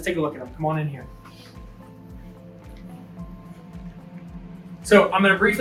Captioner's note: feet shuffling